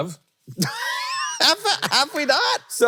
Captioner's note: Hank laughing